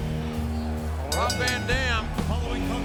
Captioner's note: lively rock music; bell ringing